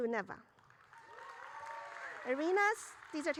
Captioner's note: audience cheering